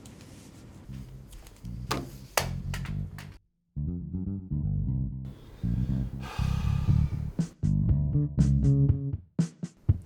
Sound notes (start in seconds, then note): 5.3 sighs